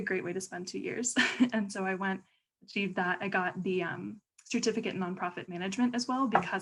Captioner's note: laughter